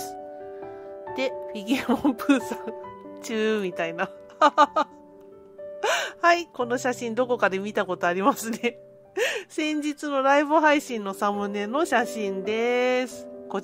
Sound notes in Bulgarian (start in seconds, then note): 4.4 смее се